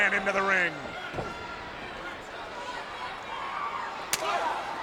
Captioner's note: blows thudding